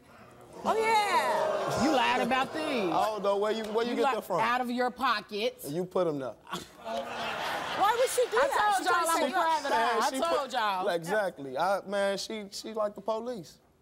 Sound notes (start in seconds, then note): 0.2 audience gasping; 0.2 laughing; 6.6 audience laughing